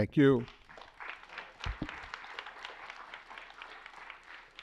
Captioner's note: applause